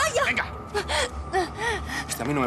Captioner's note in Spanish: sollozos